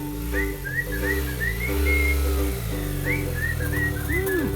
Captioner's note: engine revving